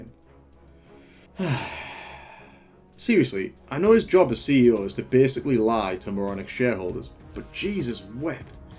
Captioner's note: sigh